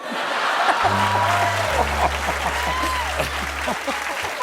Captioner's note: laughter; cheers and applause